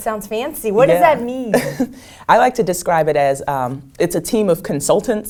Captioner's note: laugh